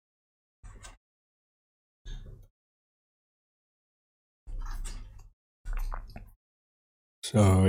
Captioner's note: silence